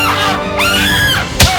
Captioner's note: woman screams